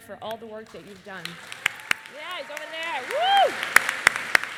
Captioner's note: applause